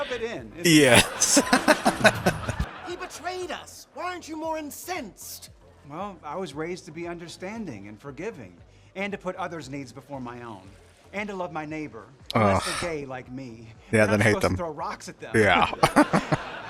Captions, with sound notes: Yes. [Laughing] Ugh. Yeah. Then hate them. Yeah. [Chuckling]